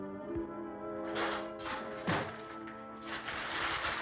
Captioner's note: metal clanging